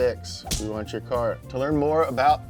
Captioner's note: punch thuds